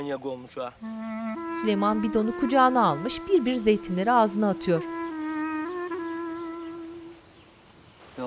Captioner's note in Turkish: Kuş sesleri